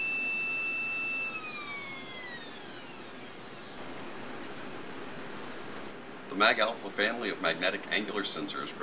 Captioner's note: motor winds down